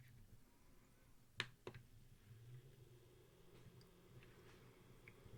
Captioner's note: turning on diffuser